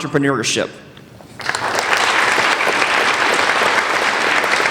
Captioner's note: applauding